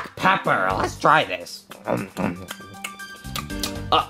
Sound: munches

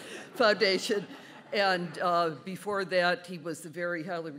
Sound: laughs

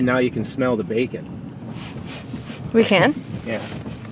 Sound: sniffing

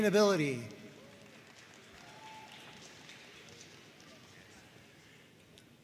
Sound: audience cheering and applauding

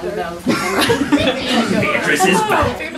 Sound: laughter

